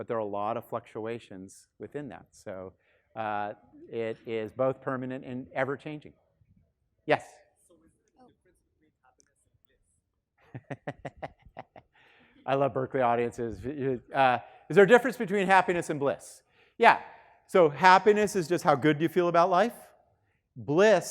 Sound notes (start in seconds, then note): 8.1 student speaking faintly; 10.5 laughing